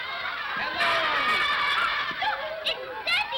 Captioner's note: children laughing; children clamor